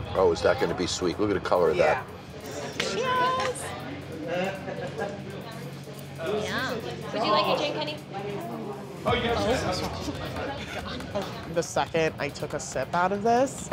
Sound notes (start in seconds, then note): 6.5 crowd chattering